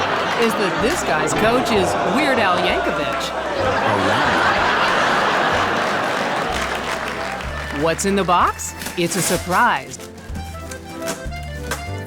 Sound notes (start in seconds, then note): 3.9 loud laughter